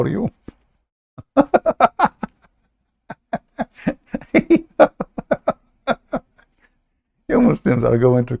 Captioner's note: Ketawa